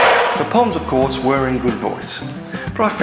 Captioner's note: crowd cheering